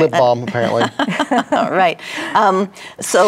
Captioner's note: women laugh